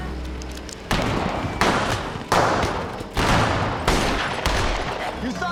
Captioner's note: guns shooting